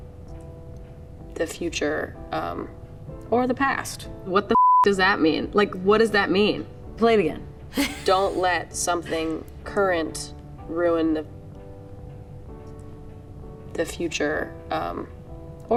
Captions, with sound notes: the future, um, or the past. What the (beep) does that mean? Like, what does that mean? Play it again. Don't let something current ruin the, the future, um, or the past.